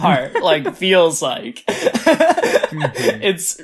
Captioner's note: laughs; laughs